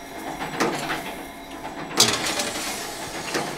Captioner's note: rattling noises